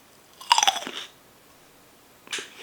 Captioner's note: cronch